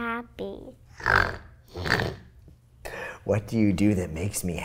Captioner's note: oinks